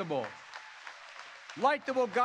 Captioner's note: applause